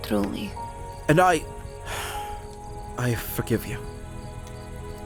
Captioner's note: sighs